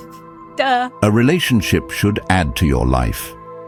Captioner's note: AI Voice